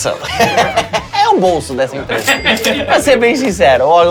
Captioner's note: risos; som de caixa registradora